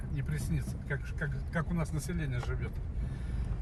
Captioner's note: speaking Russian